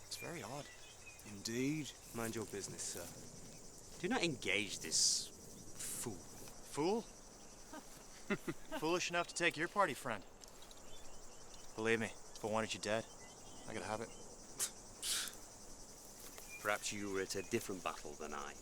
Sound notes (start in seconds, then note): 7.6 bandit companions laugh; 14.9 Artemir and Cador scoff